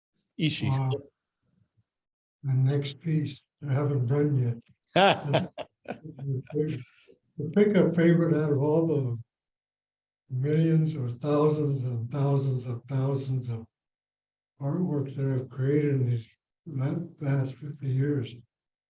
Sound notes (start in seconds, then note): 4.9 laughs